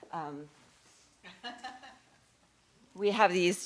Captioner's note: laughter